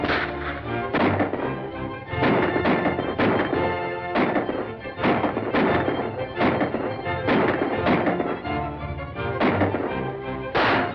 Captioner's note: gunshots firing